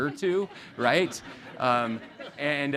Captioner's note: audience laughing